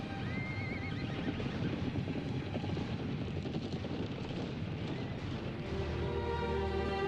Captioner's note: moves to tense sorrowful music; horses whinnying; fire roaring; sorrowful music grows